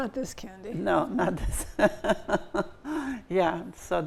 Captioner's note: laughs